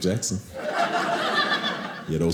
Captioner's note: audience laughing